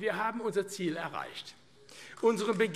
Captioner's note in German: Beifall AfD